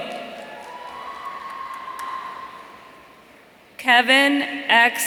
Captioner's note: audience cheering